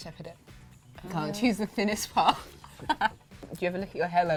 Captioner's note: laughs